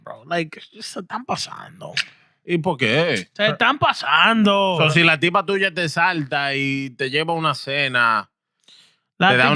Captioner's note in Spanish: Hablando en idioma extranjero